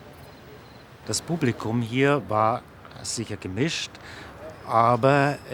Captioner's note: speaking German